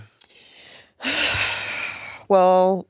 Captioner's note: sighing